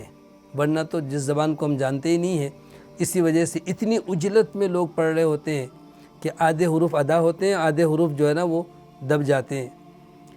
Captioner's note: Arabic